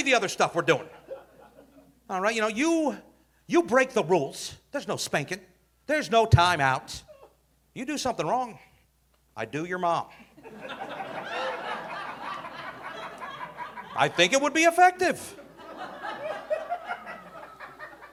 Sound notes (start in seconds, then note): 10.4 audience laughing